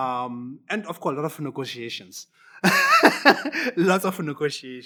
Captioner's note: laughs